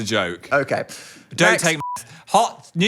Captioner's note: beep